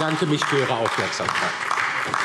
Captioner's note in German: Beifall DIE LINKE und vereinzelt SPD